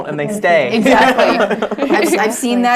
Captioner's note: laugh